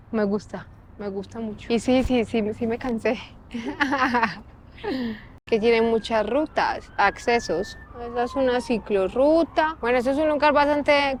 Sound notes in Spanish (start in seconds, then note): 3.5 Risas